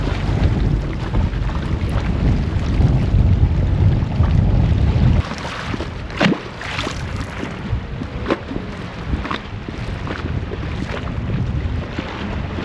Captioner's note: sound of water